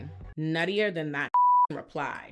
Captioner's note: beep